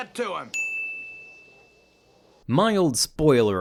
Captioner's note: bell chimes